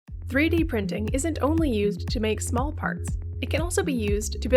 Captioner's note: voice-over